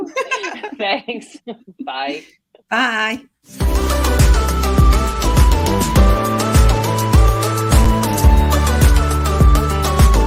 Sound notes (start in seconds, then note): 0.0 laughs; 6.1 upbeat music